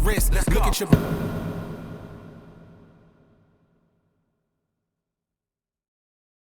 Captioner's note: music stops